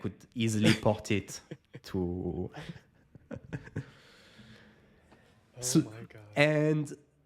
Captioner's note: laughing